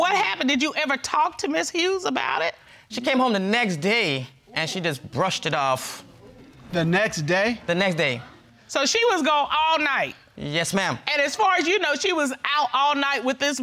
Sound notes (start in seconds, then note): none